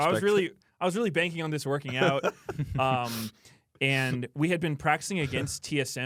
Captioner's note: laughs